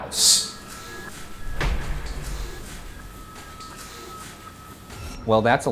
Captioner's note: muffled giggling